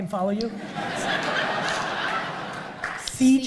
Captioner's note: audience laughs